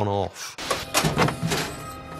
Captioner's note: ominous music; trunk clicks